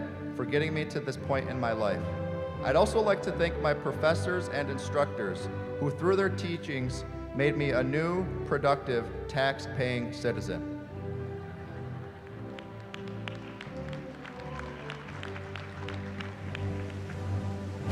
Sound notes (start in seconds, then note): 11.9 applause